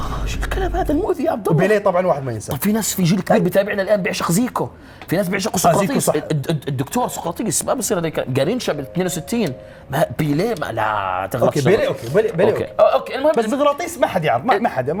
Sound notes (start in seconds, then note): 10.7 sighing